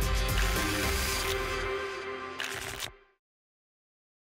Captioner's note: tickets shuffling